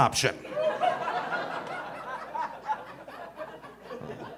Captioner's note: audience laughing